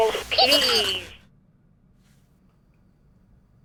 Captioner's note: Furbee squawks